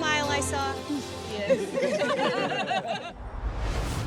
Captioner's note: laughing